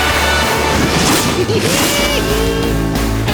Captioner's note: giggling